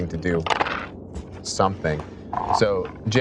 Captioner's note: dice rolling